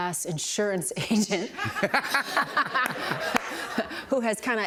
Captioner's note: laughter